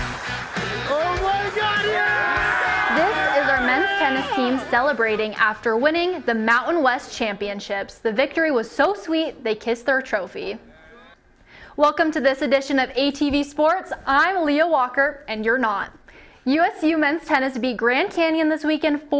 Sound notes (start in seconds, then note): 0.0 cheering